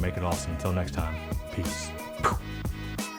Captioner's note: blows